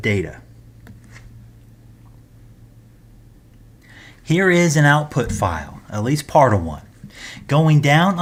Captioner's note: turn page